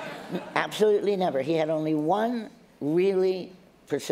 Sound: laughter

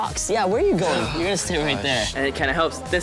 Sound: groans

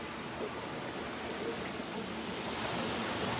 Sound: loud water flowing

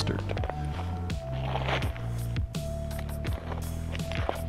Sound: footsteps crunching

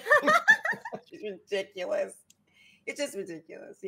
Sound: laughs

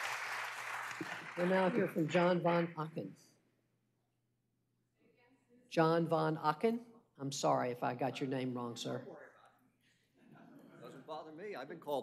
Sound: applause

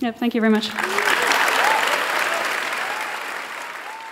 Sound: applause

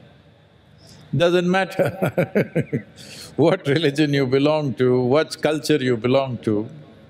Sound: laughs

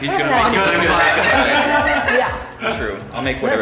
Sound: laughter

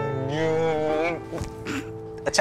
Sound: laughs

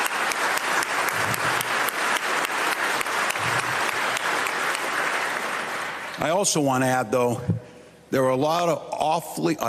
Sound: applause

